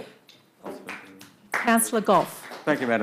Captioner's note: audience applauding lightly